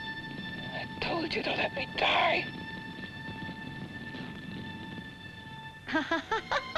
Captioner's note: flames crackle; flames crackle; Jan laughs; suspenseful ominous music